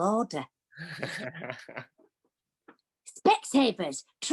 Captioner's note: laughs